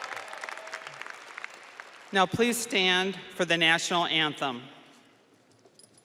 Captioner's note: audience applauding and cheering